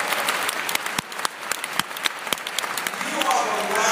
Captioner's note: applause